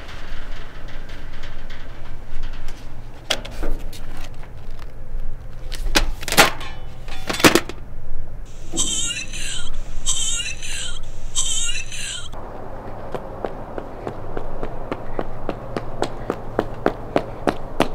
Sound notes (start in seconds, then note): 8.8 female zombie orgasm ringtone